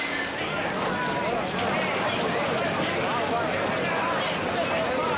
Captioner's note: clamoring